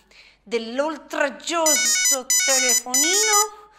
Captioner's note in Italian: squillo del telefono